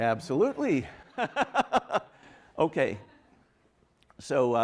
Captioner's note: laughs